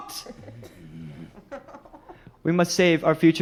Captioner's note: laughing